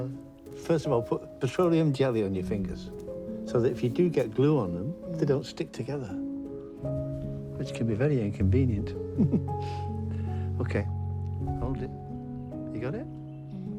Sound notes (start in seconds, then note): 9.0 chuckles